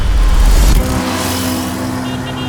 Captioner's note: none